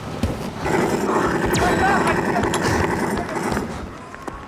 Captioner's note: So many gunshots can be heard